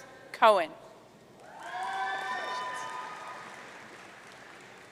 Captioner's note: audience cheering